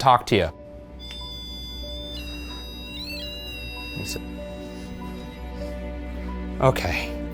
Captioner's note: REM-Pod squealing; eerie music